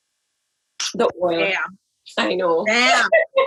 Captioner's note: laughs